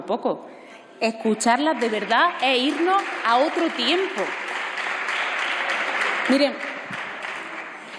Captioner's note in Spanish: Aplausos